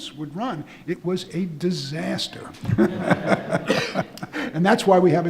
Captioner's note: audience laughing